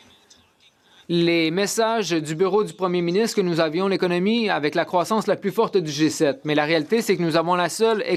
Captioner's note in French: voix de l'interprète